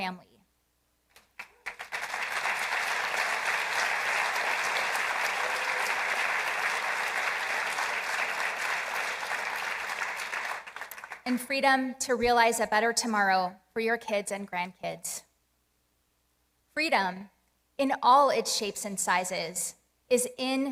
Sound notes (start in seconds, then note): 5.9 applause